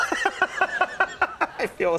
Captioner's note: people laugh